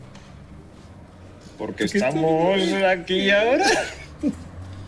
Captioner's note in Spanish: con risa tonta